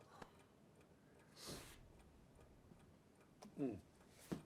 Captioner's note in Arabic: دقات الساعة